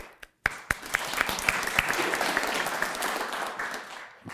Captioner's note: audience clapping